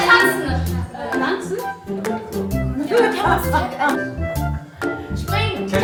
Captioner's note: speaking German